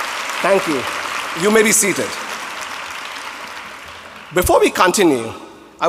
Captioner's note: applause